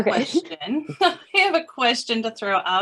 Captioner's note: laughs